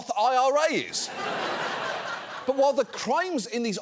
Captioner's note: audience laughs